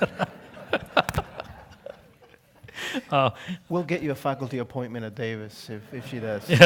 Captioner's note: laugh